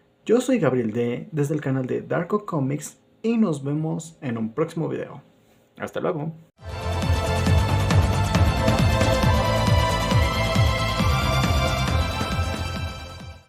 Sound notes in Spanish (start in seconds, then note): 0.0 Silencio; 5.3 Silencio